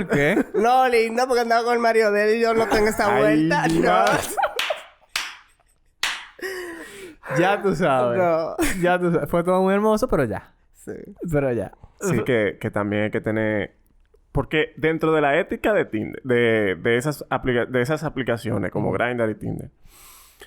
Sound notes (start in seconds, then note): 2.4 laughs; 2.5 laughs, applauses